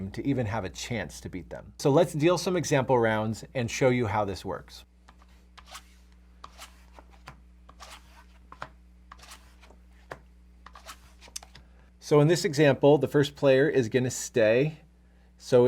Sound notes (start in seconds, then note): 9.1 cards swishing